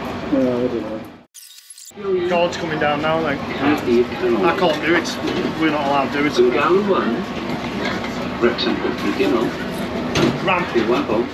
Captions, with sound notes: Ah, I dunno. - Guard's coming down now, like. I can't do it. We're not allowed to do it, the ramp. [train announcement in background] A ramp.